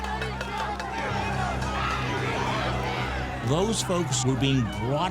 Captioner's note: crowd yelling